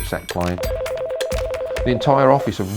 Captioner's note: phone ringing